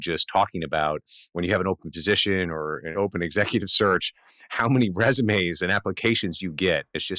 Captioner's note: laughs